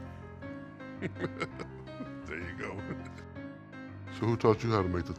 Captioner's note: chuckles